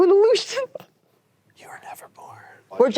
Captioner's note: chuckles